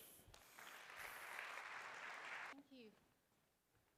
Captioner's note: applause